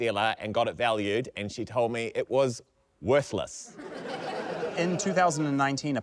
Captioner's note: laughter